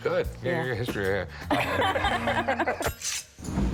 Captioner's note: both laugh